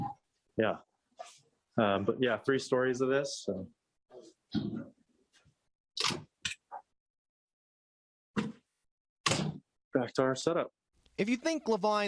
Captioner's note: door opens